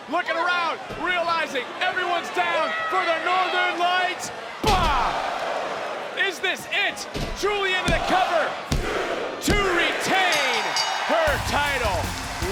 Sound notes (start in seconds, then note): 5.2 crowd gasps; 10.3 bell rings